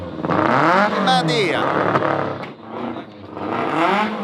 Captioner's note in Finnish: moottorien pärinää